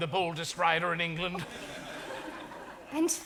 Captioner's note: audience laughs